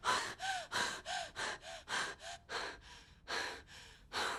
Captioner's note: woman panting